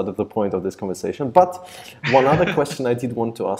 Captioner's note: laughs